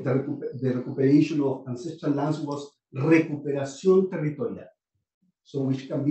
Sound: speaking spanish

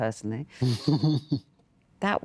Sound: laughs

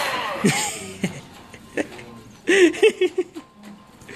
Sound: evil laugh

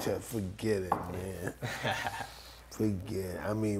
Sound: laughs

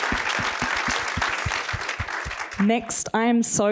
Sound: applause

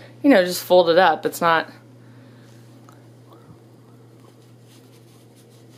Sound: rustling noises

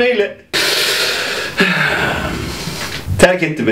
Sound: inhale

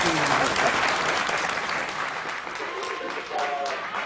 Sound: applause

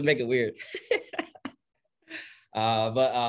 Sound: laughing

